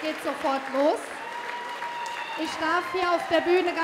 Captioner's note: applause